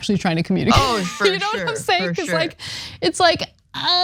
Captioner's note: laugh